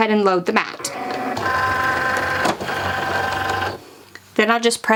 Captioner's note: Cricut machine whirring